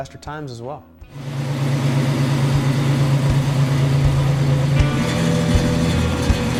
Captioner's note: engine running